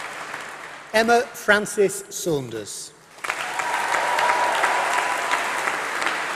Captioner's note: applause